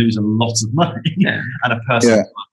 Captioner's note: laughs